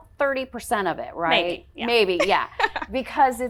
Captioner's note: laughing